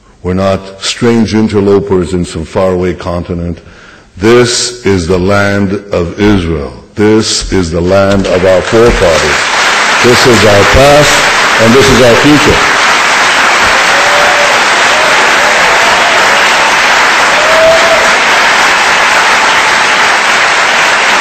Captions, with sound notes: We’re not strange interlopers in some far away continent. This is the land of Israel. This is the land of our forefathers. (audience applause) This is our past, and this is our future.